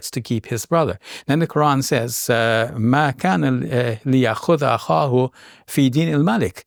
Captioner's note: speaking foreign language